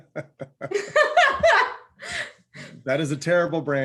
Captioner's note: laughs; laughs loudly